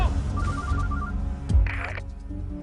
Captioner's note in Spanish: Suena el celular